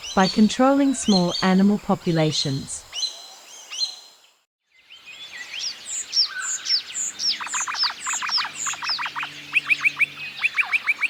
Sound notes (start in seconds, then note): 6.2 Noisy Miner sound